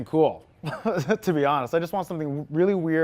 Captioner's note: chuckles